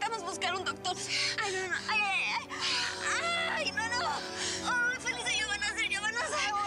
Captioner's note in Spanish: gritos y quejidos